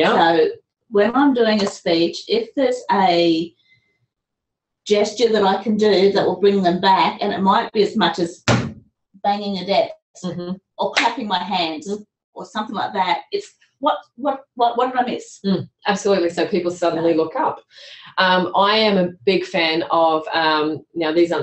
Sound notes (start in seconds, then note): 8.4 banging noise; 11.0 clapping noise